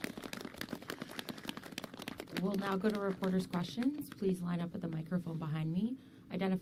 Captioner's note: applause